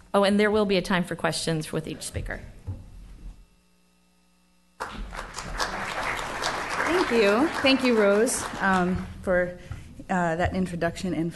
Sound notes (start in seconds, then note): 4.8 applause